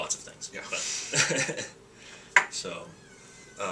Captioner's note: laughing